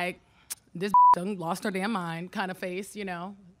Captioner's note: beep